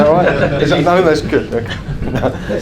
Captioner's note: laughs